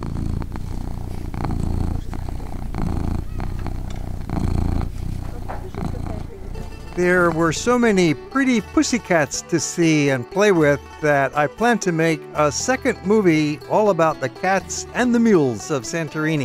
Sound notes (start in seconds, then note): 0.0 cat purrs